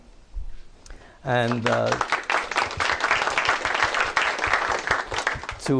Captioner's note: applause